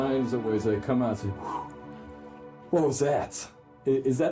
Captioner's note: exhales